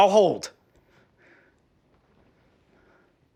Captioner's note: Tom breathing heavy